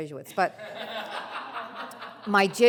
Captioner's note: audience laughs